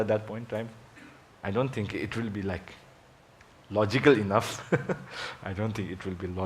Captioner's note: laughs